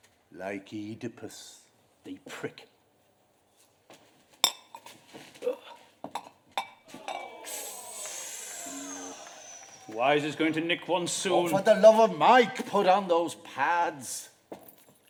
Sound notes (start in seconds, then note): 4.3 teacup chinks; 6.9 distant crowd groans, sucks his teeth